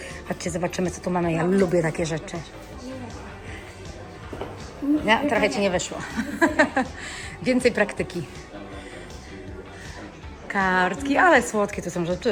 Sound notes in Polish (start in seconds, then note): 5.9 śmiech